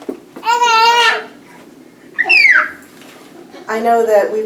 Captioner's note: baby crying